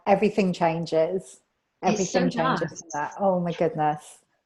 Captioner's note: mumbles